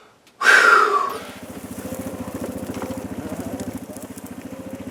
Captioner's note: sighs; ATV engine rumbling